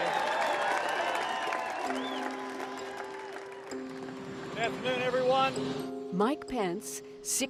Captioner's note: cheers and applause